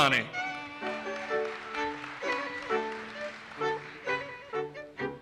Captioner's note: audience applauses